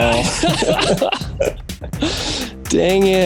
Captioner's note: both laughing